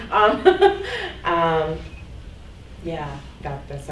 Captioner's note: laughing